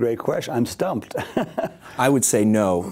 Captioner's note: laughing